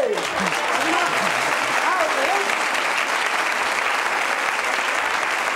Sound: audience applauding

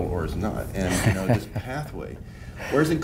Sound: laughs

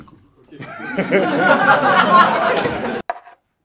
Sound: laughs

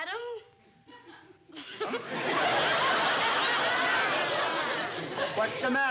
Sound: laughs

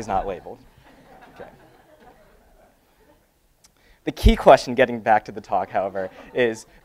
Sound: laugh

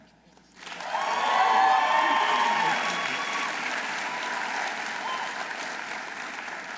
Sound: audience applauding; audience cheering

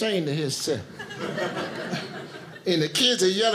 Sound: audience laughing

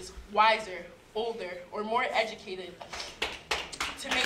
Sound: applause

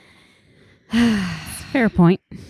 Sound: sighing

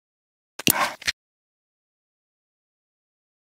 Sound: can opening

